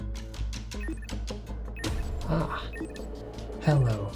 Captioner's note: timer beeping